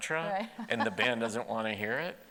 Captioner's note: laughs